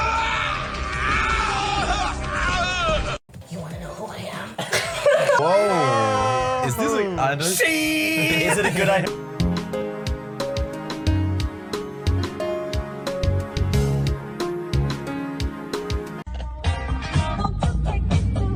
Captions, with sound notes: (screaming) You wanna know who I am? (laughing) Whoa. Is this like-- She! Is it a good idea? (upbeat music) (upbeat music)